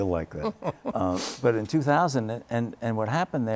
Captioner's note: laughter